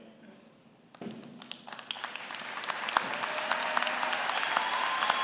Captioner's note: applause